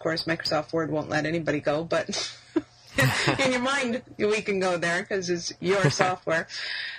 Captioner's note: laughs